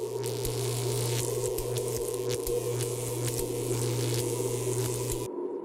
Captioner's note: electricity buzzes; tense music